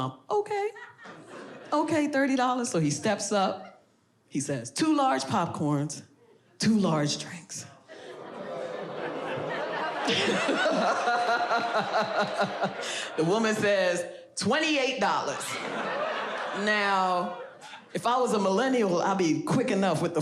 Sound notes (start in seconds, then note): 8.0 audience groans; 9.3 laughs; 15.1 audience laughs